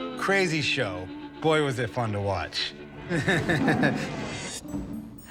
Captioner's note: chuckles